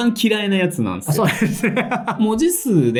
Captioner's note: laughs